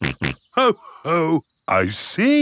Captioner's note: snorts